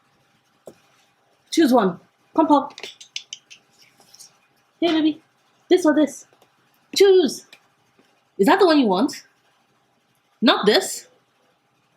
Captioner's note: clicks tongue